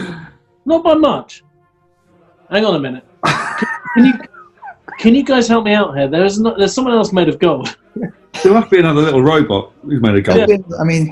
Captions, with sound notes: Not by much. Hang on a minute... [SNIGGERING] Can you guys help me out here? There's someone else made of gold. There must be another little robot who's made of gold.